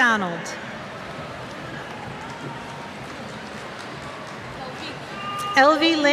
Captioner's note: cheers